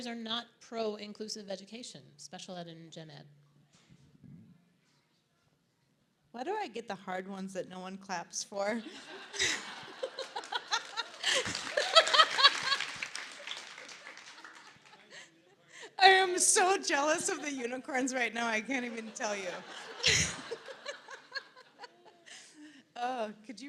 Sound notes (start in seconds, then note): 8.8 audience laughs; 9.7 applause; 18.8 audience laughs